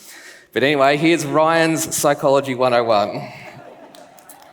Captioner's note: laughs